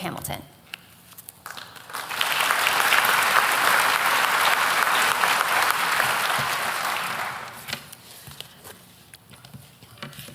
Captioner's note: applause